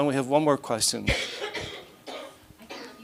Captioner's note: coughing